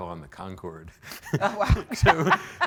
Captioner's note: laughs